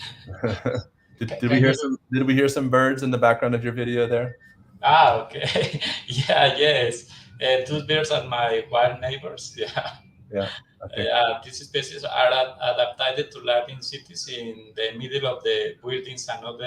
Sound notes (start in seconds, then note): 0.2 laughter; 5.0 laughs; 10.8 laughs